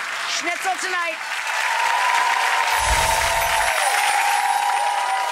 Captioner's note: audience cheering